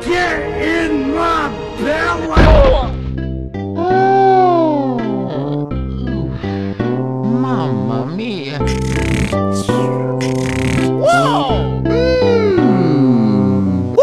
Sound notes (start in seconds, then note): 8.6 snoring